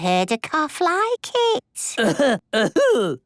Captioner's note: coughing